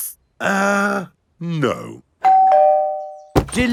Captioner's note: doorbell rings